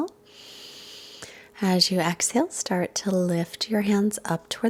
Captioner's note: inhales deeply